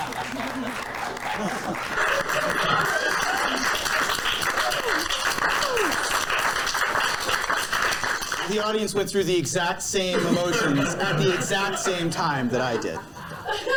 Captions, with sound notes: (audience applauds) The audience went through the exact same emotions at the exact same time that I did.